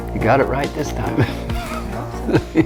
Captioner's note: laughs